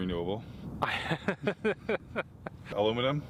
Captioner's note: Gülme